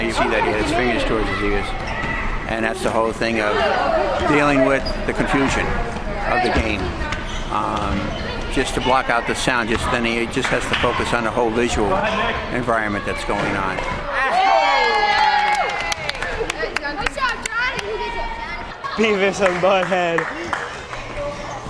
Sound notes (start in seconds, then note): 14.1 cheering